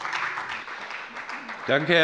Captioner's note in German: Beifall bei der FDP und der SPD